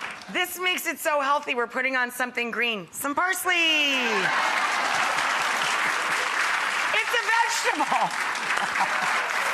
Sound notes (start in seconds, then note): 4.0 audience laughs and applauds